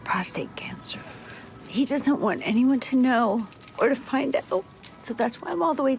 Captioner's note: voice wavers